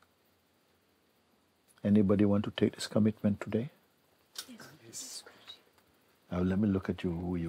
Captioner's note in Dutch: Stemmen